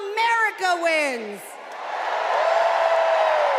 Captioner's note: cheers and applause